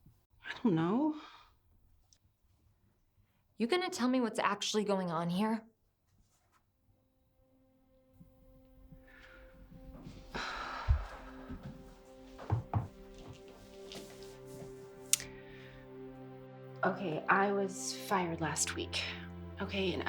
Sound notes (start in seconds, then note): 9.1 slow music; 10.0 Hope sighing